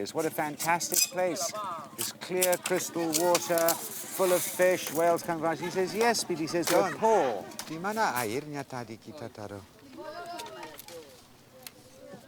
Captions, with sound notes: what a fantastic place. Its clear, crystal water full of fish, whales come around. He says, "Yes, but we are poor." [speaking Austronesian language]